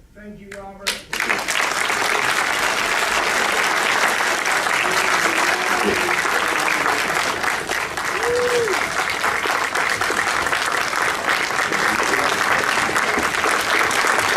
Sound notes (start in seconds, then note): 1.0 applause